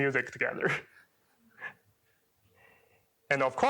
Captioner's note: chuckles